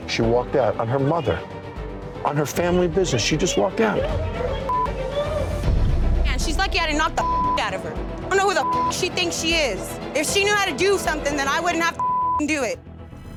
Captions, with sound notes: - She walked out on her mother, on her family business. She just walked out. - Man, she's lucky I didn't knock (beep) the out of her. I don't know who the (beep) she thinks she is. If she knew how to do something, then I wouldn't have to (beep) do it.